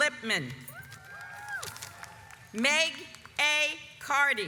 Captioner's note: audience applauds